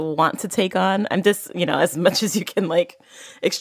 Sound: laughs

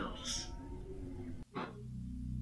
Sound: puff

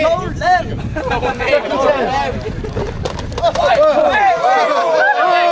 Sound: crowd chattering and yelling

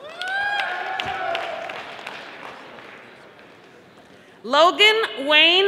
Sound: audience applauding

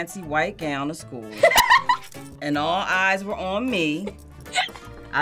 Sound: laughs

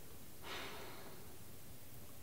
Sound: Beatrice sighs

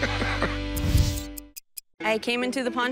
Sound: laughs

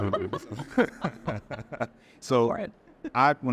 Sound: all laughing

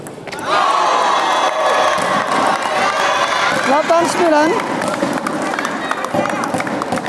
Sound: applause

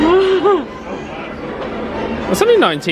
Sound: chuckling

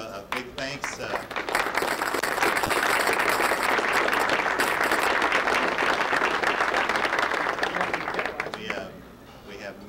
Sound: audience applause

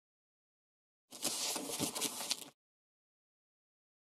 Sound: sound of paper

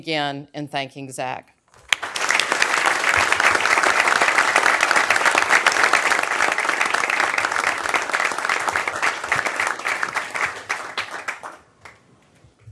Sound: applause

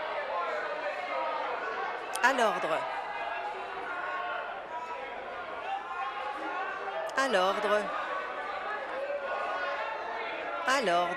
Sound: conversation din

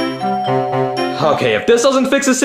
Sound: doorbell rings

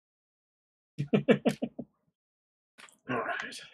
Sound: chuckles

